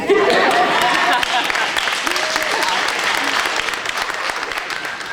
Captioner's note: audience applauding